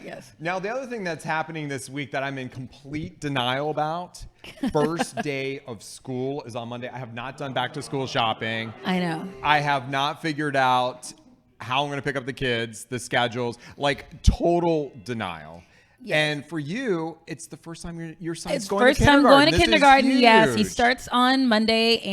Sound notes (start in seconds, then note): 7.4 crowd boos